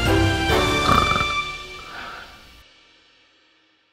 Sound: grandma snores

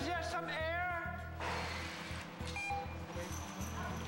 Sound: fan beeps

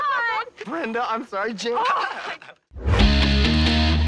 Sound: laughs; both laughing

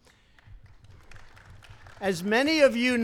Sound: applause

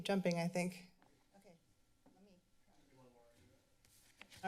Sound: background conversations

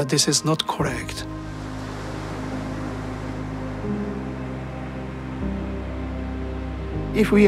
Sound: waves crashing

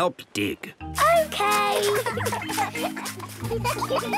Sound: giggling

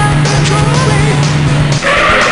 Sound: engine sounds; car screeching

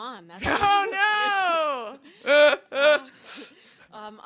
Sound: laughter

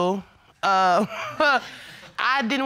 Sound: scoffs

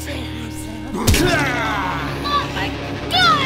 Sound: guts squish

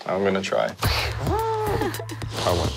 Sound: crying

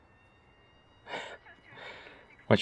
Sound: chuckles

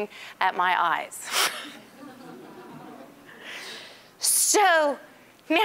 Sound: all laughing

